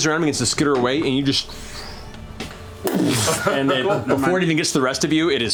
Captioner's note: slam